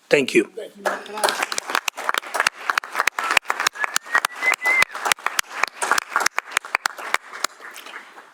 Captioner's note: applause